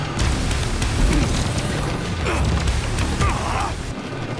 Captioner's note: grunts